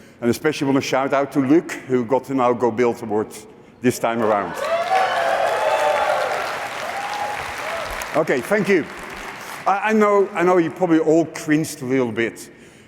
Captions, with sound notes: and especially, I want to a shout out to Luke who got a Now Go Build award this time around. [cheering] Okay. Thank you. I know you probably all cringed a little bit